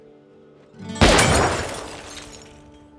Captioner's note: gunshot